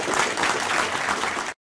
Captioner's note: applause